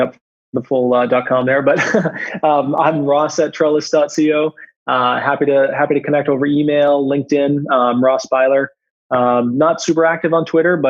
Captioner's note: laughs